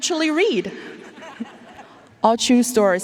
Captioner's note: audience laughing